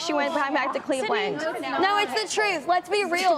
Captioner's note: contestants disagreeing